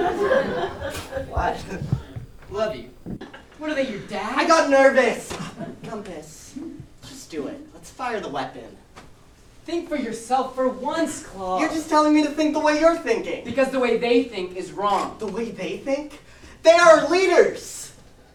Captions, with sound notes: [audience laughs] What? What? Love you? What are they, your dad? I got nervous. I got nervous. Gumpus, just do it. Let's fire the weapon. Let's fire the weapon. Think for yourself for once, Klob. You're just telling me to think the way you're thinking. Because the way they think is wrong. The way they think? The way they think? They are our leaders.